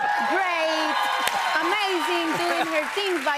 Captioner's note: cheers and applause